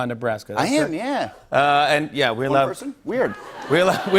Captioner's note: laughter